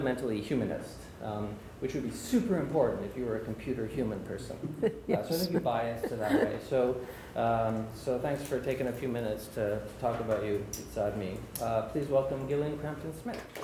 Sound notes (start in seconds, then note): 4.5 laughing